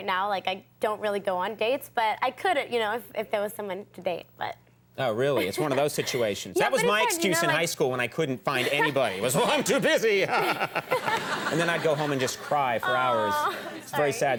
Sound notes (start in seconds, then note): 10.2 laughing